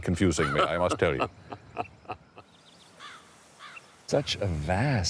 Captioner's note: laughing